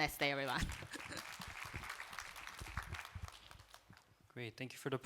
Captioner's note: applause